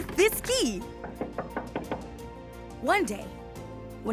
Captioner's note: door knocking